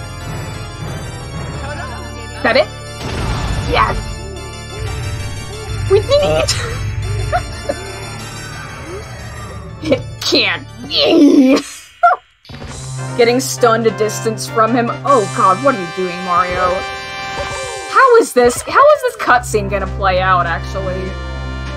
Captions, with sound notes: That it? YES! wE DID EEEET! [tired laugh] "It. Can't. BEEEEEEE!" [laughs] -getting stunned a distance from him. OH god, what are you doing Mario? How is this- how is this cutscene gonna play out, actually?